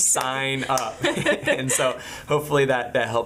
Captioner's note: laughing